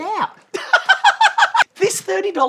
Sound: high pitched laughter

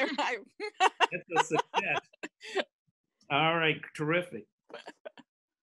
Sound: background laughs

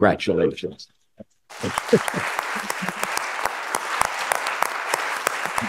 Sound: audience clapping

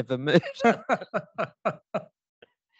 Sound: laughter

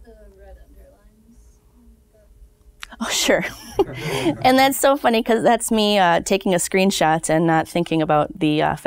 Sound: laughs

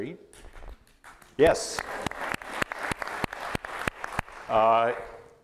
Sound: applause

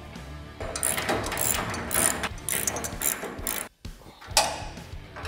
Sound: tool clicking; metal clinking

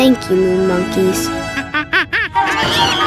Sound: monkey noises

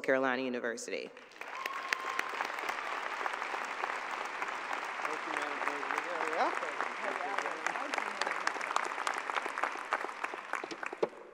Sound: cheers and applause

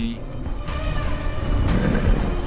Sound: mammoth trumpets

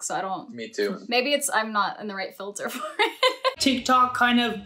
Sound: laughs

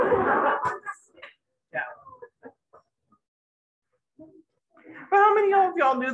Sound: laughter

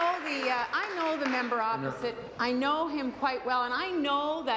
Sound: applause

